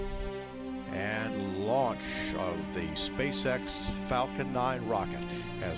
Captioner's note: voiceover